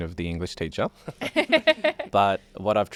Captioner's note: all laugh